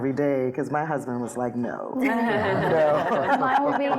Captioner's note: laughing